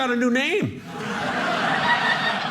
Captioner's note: audience laughing